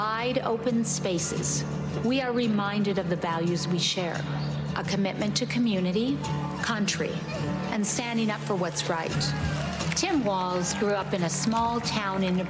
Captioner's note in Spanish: Vitores